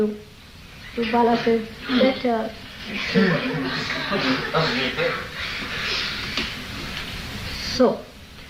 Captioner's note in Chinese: 用猶豫的聲音說